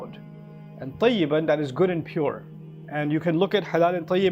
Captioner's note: Arabic